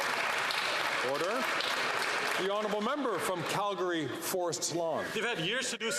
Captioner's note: some Applause